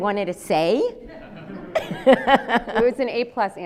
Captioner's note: audience laughs